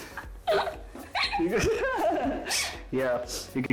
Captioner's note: shares laughter